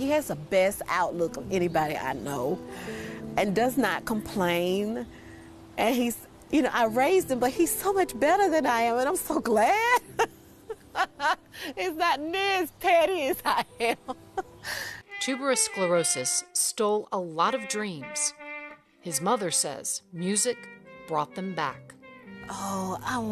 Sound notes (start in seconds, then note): 10.1 laughing